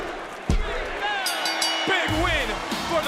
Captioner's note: bell rings